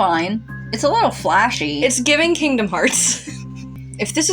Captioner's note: snicker